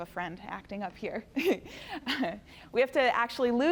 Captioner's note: chuckles